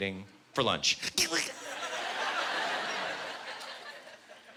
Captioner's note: whimpering